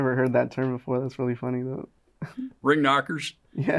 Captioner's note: chuckles